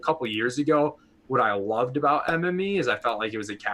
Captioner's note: popping sound